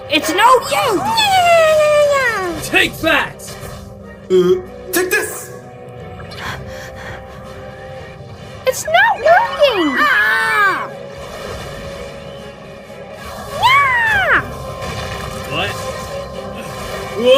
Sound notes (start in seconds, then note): 6.4 Jibanyan pants; 8.6 Usapyon yells; 12.1 Zazel grunts; 17.1 Hovernyan yells